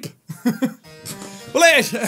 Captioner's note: laughs